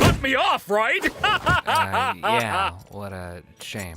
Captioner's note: laughing heartily